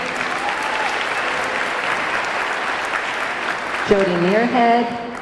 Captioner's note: audience cheering; audience clapping